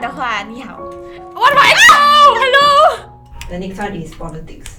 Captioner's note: screaming